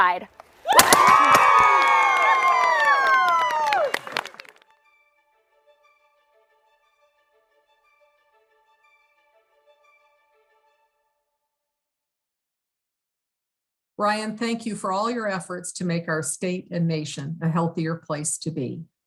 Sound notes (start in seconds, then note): 3.3 group applauds